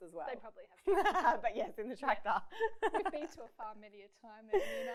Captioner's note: laughs